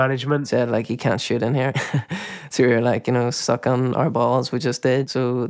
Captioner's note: laughs